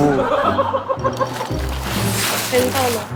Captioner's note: fumbling